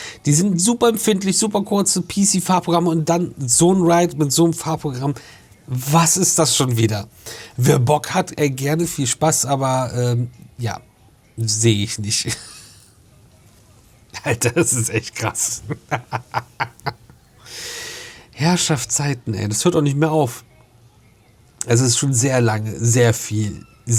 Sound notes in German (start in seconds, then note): 14.1 gelächter